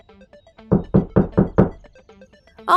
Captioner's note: knocking on door